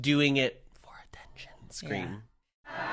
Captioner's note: whispering